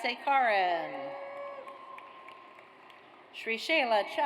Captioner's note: audience cheers